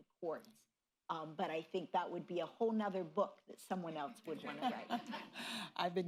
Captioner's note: laughter